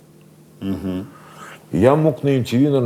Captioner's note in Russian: Дудь, задумчиво